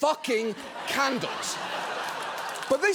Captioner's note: studio audience laughing